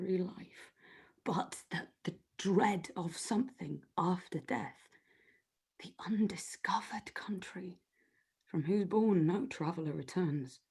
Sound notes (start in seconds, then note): none